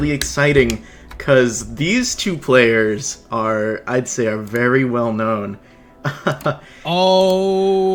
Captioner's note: laughs